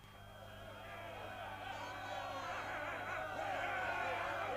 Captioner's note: crowd jeering